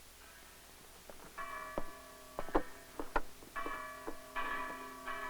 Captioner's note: church chimes